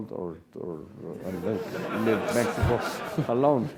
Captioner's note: laugh